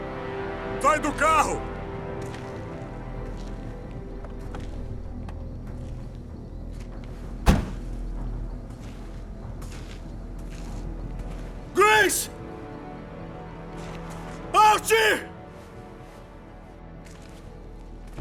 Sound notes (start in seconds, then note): 7.4 car door closes